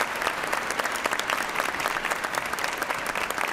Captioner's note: applause